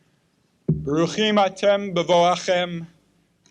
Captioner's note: Hebrew